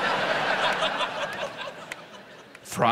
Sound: audience laughs

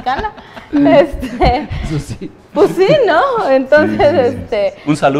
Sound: laughs

